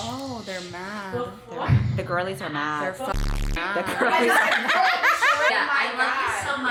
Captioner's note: laughing